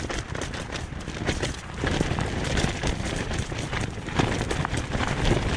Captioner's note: heavy rain continues with wind